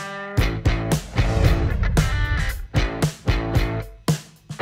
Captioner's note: lively music; graphics whooshing